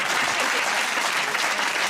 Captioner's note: laughter and applause